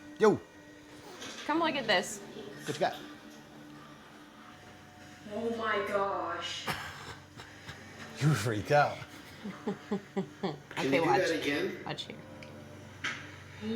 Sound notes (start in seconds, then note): 8.8 laughing